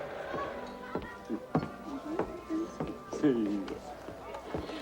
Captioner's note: Cyrus chuckling